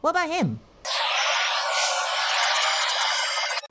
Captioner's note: Static